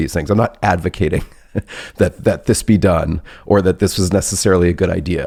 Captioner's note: laughs